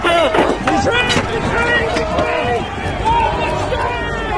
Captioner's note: shouting